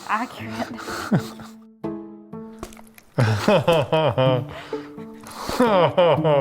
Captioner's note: light music; laughing